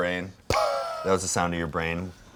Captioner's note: blows air